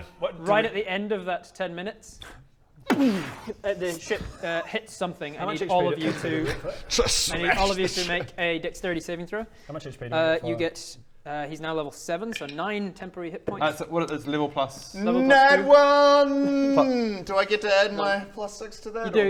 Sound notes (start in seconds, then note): 2.9 booomf